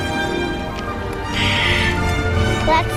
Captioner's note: deep breath